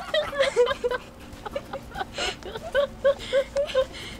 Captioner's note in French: rires